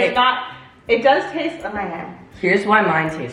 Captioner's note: mom mumbles